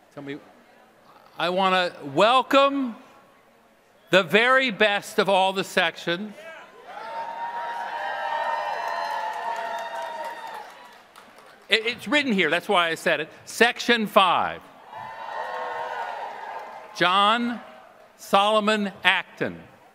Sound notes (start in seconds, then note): 8.0 applause